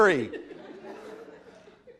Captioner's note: laughter